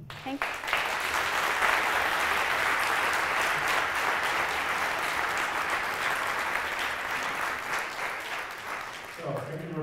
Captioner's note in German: Beifall